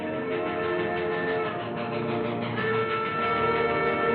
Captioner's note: train chugging and chooing